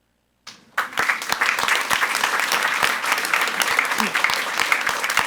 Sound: audience applauds

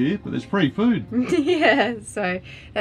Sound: laughing

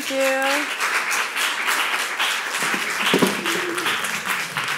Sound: audience clapping

